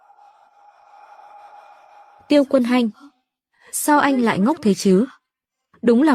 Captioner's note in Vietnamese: la hét